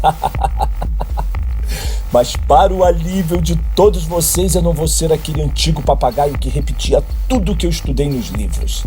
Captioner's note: laughs